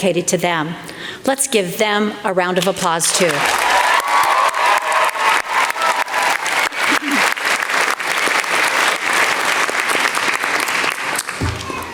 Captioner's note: applause